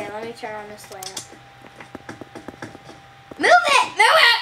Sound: light clicking on

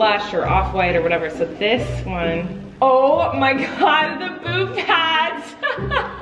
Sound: laughing

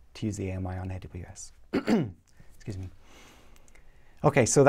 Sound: cough

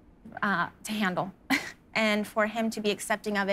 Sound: laughs

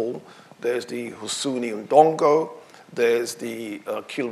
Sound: speaking in foreign language

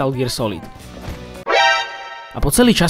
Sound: alert sound from the Metal Gear games

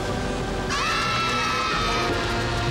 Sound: cheering

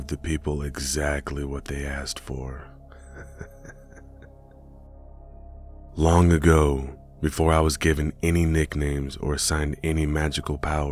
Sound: laugh?

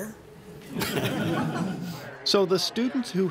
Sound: laughter

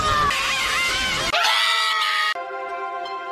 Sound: several horrified screams

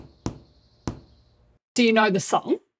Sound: tapping

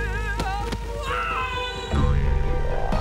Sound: screaming

